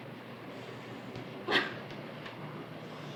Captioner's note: laughter